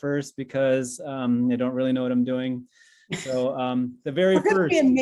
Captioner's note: laughs